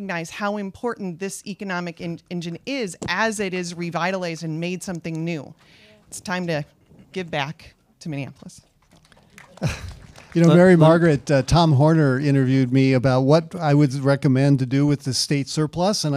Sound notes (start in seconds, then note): 8.9 audience applauds